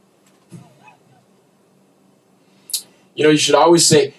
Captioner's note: chuckles